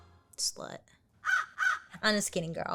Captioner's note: crow caws